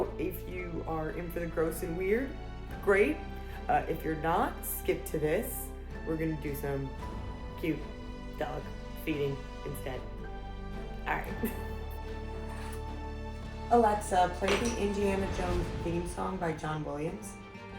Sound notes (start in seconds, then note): 11.5 laughs